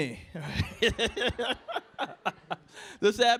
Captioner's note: laughter